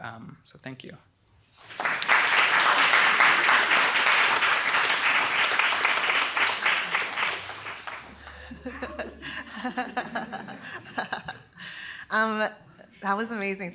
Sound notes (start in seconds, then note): 1.5 applause; 8.3 laughter